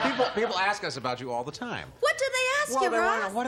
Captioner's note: laughter